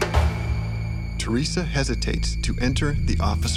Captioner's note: voiceover